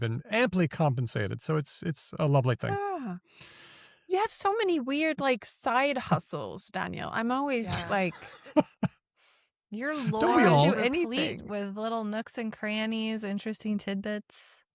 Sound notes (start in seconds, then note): 9.9 laughs